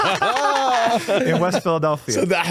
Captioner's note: laughing